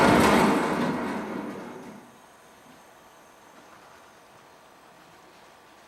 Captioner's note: car crashing; air hissing